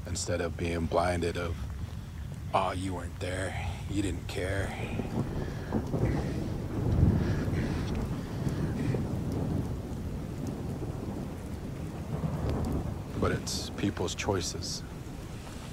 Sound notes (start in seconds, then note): 5.2 thunder storms